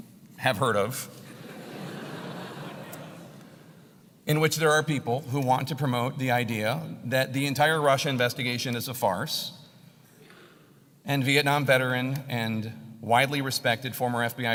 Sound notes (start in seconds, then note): 1.7 laugh